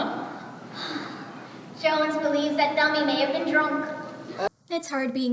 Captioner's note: sighs